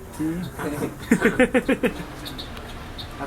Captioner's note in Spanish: Risas